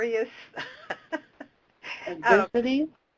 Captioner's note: laughs